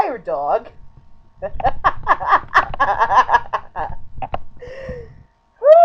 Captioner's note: more disbelieving laughter